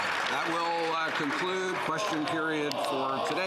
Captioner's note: applause